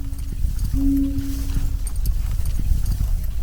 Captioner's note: horse carriage steps